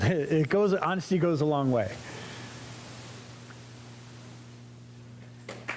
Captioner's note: applause